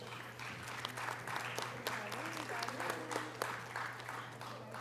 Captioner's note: audience applause